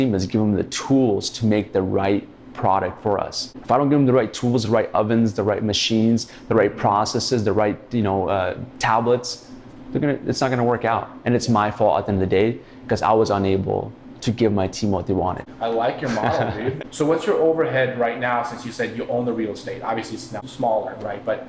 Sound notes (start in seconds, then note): 16.0 laughter